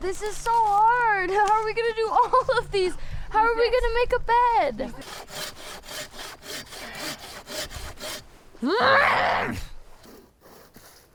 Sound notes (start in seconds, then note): 4.8 blade saws; 8.6 grunts